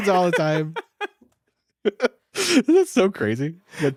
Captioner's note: all laughing